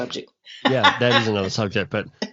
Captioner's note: laughs